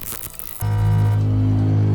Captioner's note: detector buzzes; ominous tone